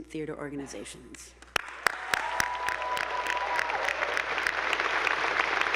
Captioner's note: attendees applauding